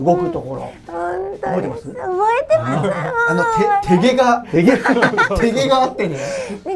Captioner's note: laughs